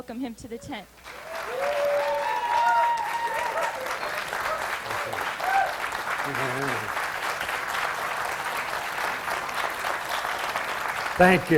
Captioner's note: audience applause